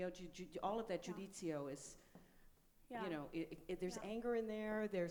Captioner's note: speaks in foreign language